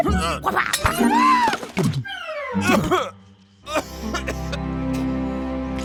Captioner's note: serpent yelling, groaning